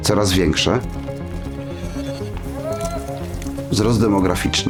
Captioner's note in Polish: odgłosy osady